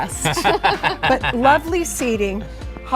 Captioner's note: couple laughs